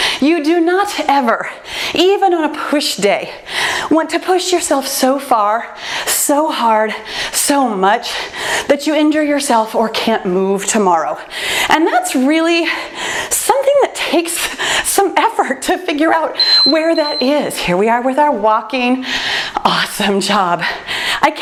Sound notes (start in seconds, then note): 16.3 timer beeps